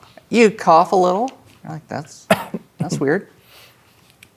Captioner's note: coughs